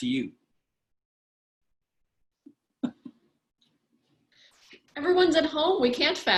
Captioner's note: laughter